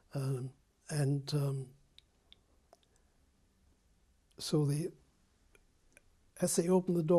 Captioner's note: pauses for 3 seconds